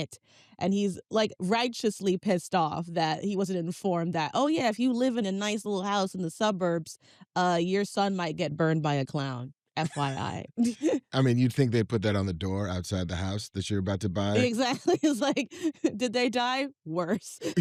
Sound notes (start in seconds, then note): 9.8 both chuckle; 14.0 chuckles